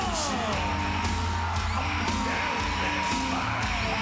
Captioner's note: audience cheering